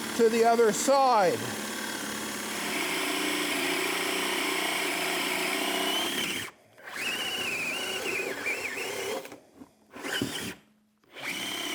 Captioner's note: drilling